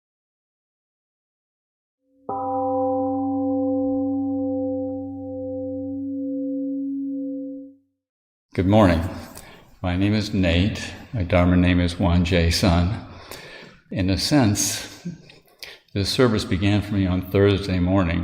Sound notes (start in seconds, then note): 2.2 temple Gong sounds and fades